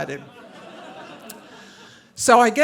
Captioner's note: audience laughing